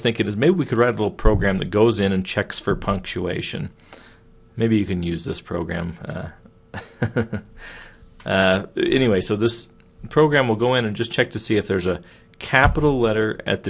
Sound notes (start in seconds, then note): 6.7 chuckling